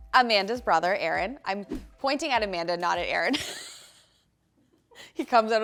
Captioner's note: laughs